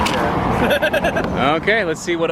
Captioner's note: laughing